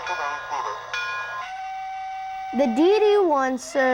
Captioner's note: train whistling